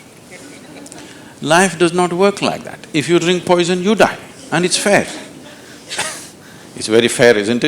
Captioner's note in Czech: Smích